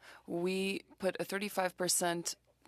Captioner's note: speaking French